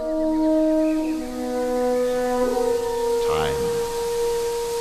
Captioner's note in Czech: šplouchání vody